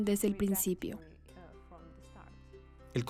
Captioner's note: Hablando idioma extranjero